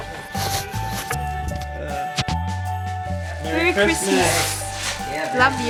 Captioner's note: laugh